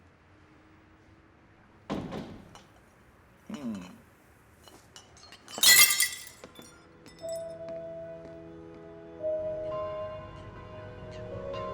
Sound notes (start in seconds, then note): 5.0 bottles break; 8.8 melancholic music